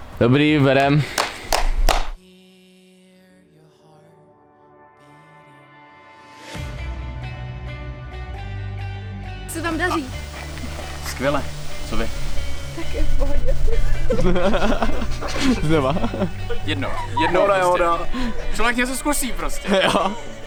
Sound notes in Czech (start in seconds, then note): 0.8 Potlesk; 14.1 Smích